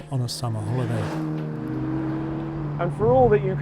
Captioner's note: car engine revving